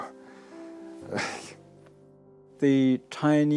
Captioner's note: sighs